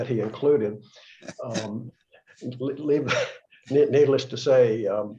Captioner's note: laughter